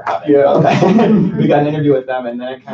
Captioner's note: laughter